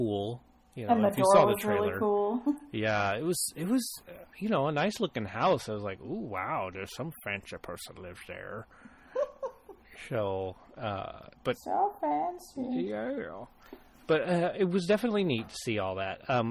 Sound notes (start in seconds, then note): 9.1 laughs